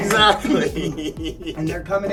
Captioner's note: laughing